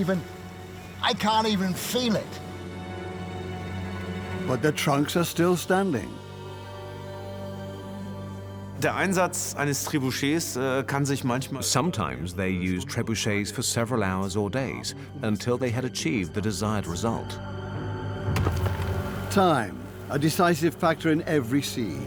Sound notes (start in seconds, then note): 8.1 in German; 10.4 dubbed in English